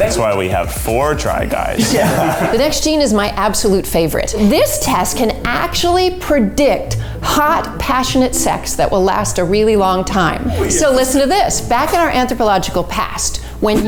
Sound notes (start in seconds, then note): 1.7 laughing